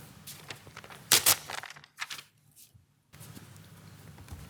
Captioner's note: paper rips